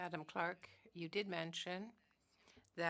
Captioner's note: speaking French